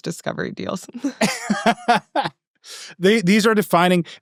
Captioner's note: laughing